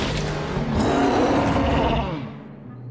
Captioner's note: roars